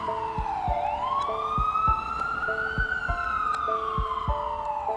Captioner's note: sirens blaring